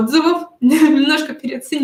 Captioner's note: смех